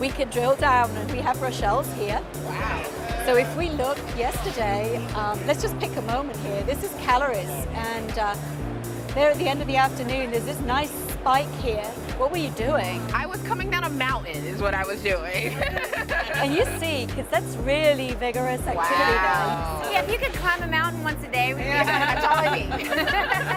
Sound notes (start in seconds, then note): 15.4 laughter